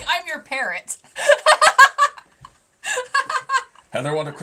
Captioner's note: laughing